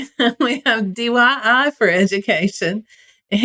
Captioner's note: laugh